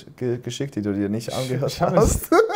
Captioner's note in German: lacht